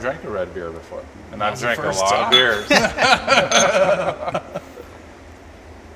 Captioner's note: laughter